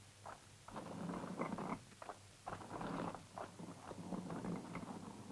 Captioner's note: stone scraping